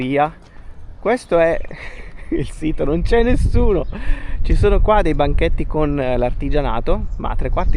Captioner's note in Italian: risate